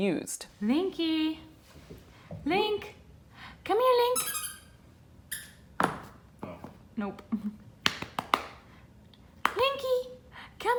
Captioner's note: squeaky toy; slapping sounds